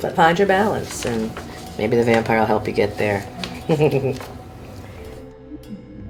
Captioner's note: chuckling